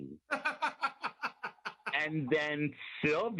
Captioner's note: laughing